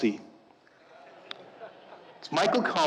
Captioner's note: audience laughing